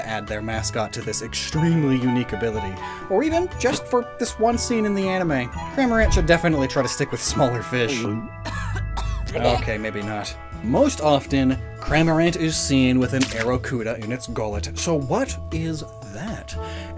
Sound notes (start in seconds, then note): 7.5 cough; 7.6 gulp; 7.8 barf